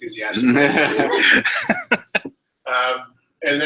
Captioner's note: laughter